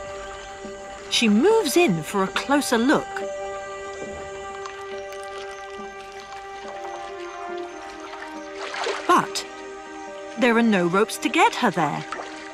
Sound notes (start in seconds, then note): 3.3 dramatic music; 6.3 water rustling